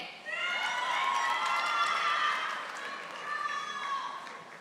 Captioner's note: audience applauding